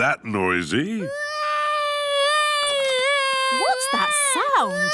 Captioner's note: baby wailing